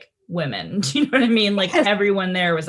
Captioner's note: laughs